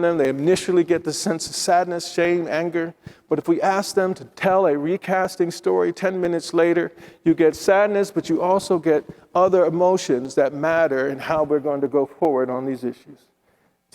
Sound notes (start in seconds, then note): none